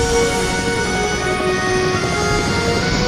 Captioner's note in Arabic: محرك يزداد سرعة; مروحة تدور